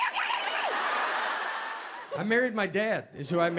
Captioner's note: audience laughs